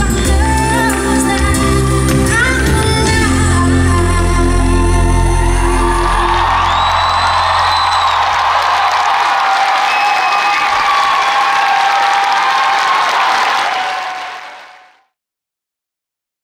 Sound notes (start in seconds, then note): 5.5 audience cheers and applauds